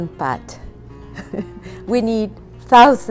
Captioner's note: laughs